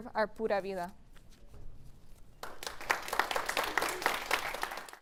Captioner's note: applause